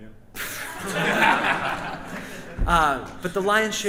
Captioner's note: audience and band laughs